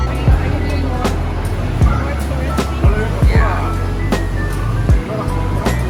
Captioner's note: Loud bustling noises of Grand Central Market